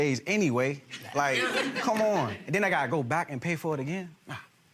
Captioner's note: gallery laughs